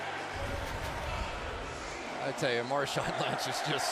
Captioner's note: pa announcement